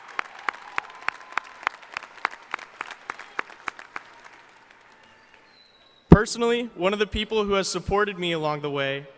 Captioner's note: applause